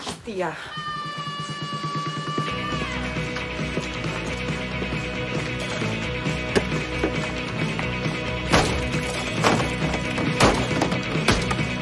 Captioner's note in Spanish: Grito prolongado; Música rítmica; Golpes